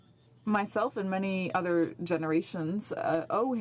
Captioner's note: speaking French